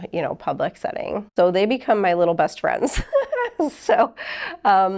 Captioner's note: chuckles